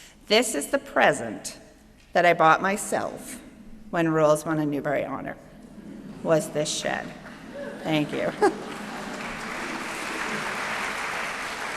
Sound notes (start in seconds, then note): 7.7 applause; 7.7 applause continues